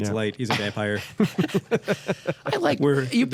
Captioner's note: laughter